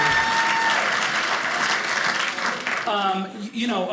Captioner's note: audience cheering